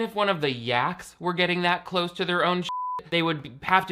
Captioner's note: beep